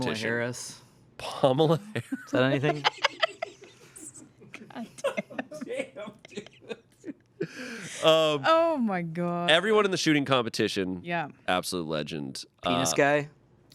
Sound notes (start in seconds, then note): 2.2 laughs; 4.8 everyone laughs